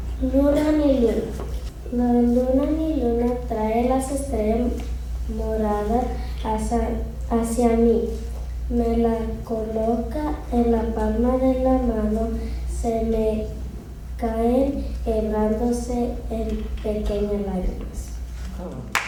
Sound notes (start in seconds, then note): 2.1 speaking Spanish